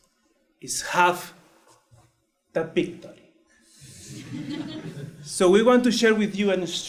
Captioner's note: laugh